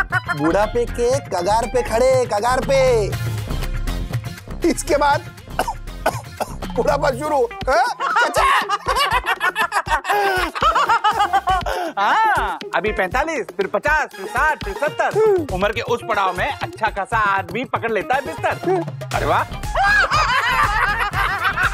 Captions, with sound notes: He's at the threshold of old age. After this... [coughing] His old age will begin. [laughing] Yes, he'll be 45, then 60, then 70. At that age, every healthy man finally ends up bedridden. Wow! [laughing]